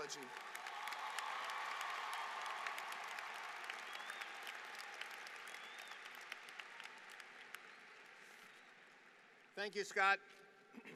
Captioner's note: applause